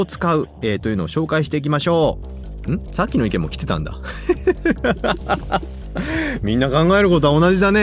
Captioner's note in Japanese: 笑い